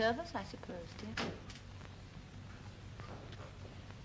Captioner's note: door bangs